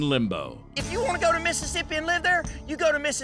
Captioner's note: angrily shouts